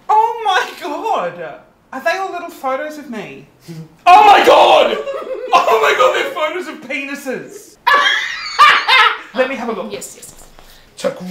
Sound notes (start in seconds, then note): 4.9 giggling; 7.8 Christian laughs